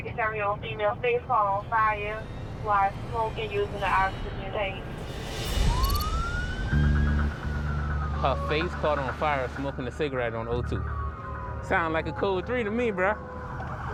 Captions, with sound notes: [sirens] Her face caught on fire smoking a cigarette on O2. Sound like a code 3 to me, bruh.